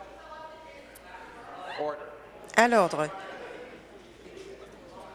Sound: conversation din

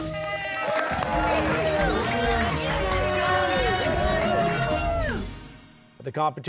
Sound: cheers and applause

